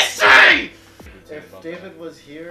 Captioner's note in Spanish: gritos